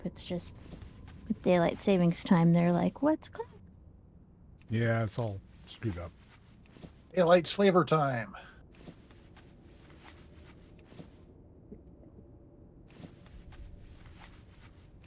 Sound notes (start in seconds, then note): 11.2 humming